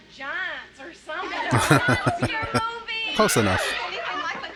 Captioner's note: chuckling